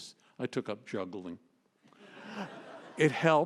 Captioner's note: laughter